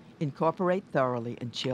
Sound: voiceover

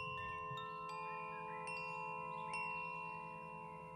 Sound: chimes tinkling

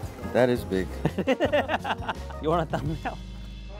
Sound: laughs

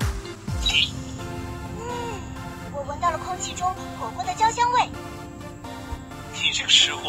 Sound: takes a deep breath

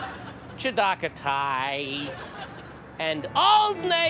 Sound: audience laughter; audience laughter

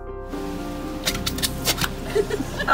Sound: walrus noise; people laughing

